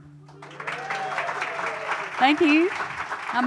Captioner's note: audience applauding